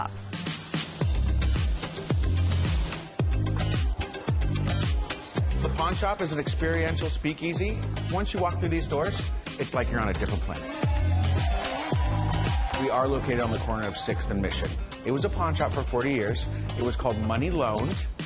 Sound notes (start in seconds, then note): 10.8 applause